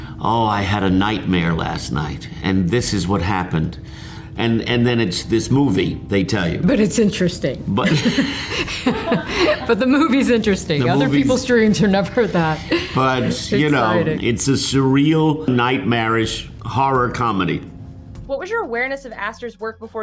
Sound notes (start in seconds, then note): 7.8 laughing; 7.8 chuckles